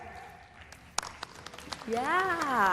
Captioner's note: applause